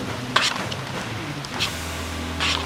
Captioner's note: none